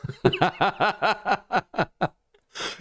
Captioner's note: laughter